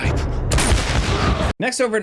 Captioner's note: gun fires